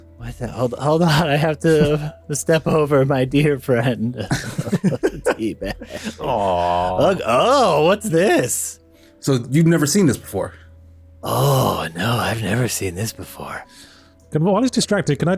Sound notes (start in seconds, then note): 4.0 sobbing